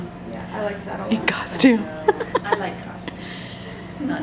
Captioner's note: laughing